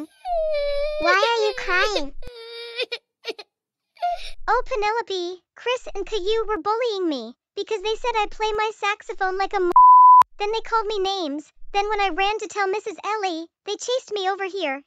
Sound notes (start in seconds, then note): 4.8 crying